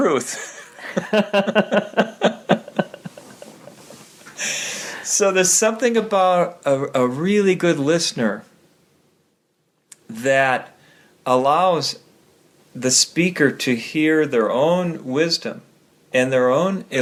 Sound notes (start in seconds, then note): 0.4 laughing